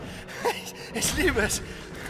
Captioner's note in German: verrücktes lachen